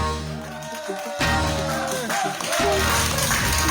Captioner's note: cheering